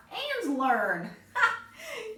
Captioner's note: laughs